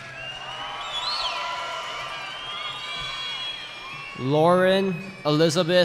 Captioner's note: cheering